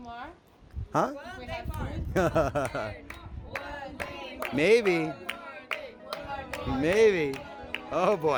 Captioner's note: chants